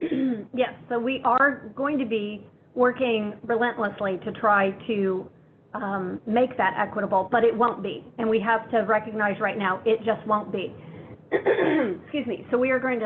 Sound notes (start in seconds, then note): 11.3 throat clearing